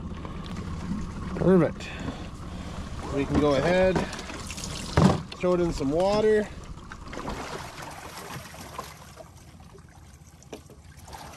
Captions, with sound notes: Perfect. We can go ahead and throw it in some water. (sloshing)